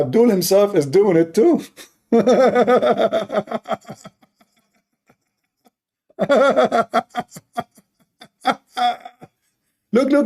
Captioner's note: Ketawa